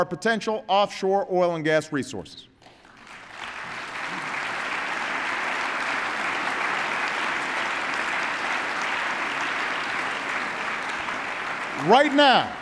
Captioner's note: applause